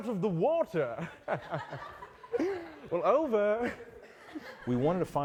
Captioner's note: laughter; laugh